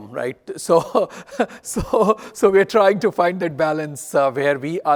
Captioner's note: laughs